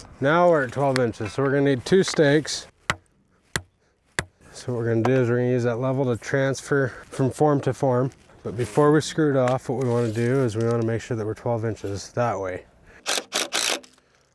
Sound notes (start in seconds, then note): none